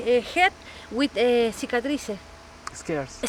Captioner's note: speaking in a foreign language